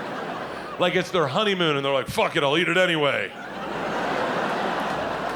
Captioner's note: audience laughing